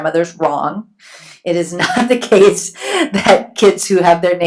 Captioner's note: laughs